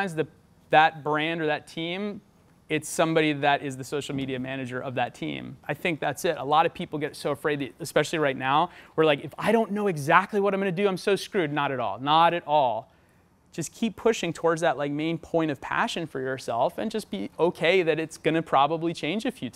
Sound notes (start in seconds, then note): none